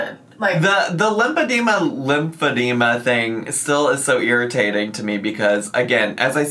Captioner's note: none